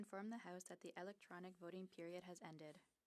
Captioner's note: speaking French